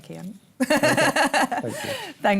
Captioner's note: laughs